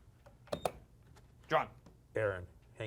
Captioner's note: beep